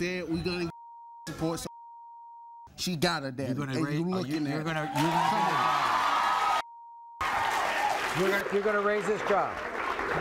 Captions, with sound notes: We gonna get (beeping) support. She got a daddy and you lookin' at him. (audience cheering) - You're gonna raise this child?